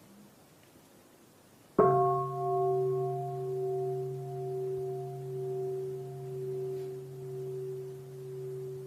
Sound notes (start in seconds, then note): 1.8 bell